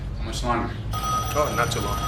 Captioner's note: telephone rings